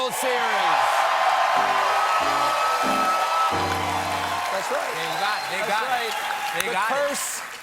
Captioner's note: cheers and applause